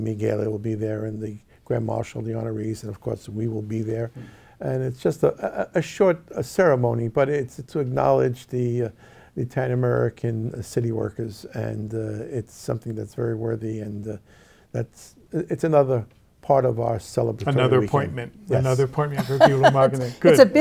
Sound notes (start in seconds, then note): 19.1 laughs